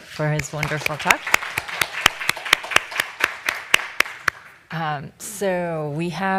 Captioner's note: applause